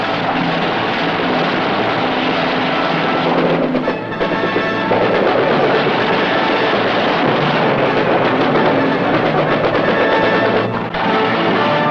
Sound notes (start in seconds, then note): 0.0 instrumental music; 0.0 gun shots; 7.0 explosion; 11.2 instrumental music